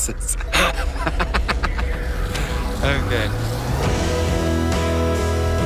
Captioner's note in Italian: risate